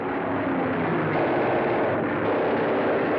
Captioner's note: machine Guns Firing